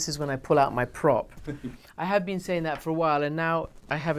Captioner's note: interviewer laughing